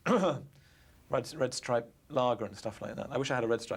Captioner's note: clears throat